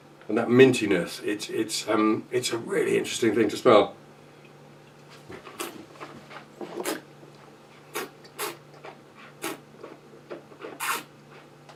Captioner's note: slurping